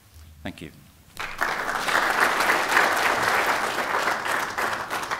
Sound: applause

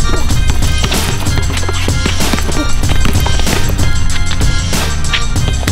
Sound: ball dribbling

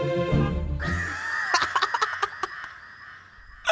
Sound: laughing

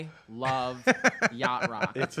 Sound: laughs

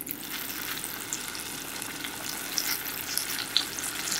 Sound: sizzling

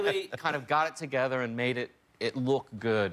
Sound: laughter

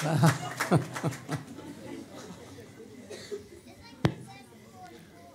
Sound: laughs

